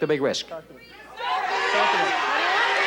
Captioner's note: audience chatter